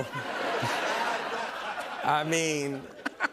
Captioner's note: laughter